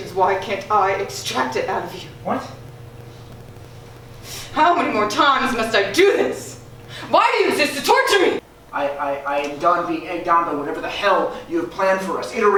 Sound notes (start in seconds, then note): 8.6 Aaron stutters